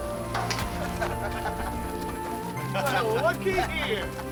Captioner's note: laughing